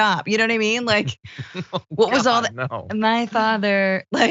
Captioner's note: laugh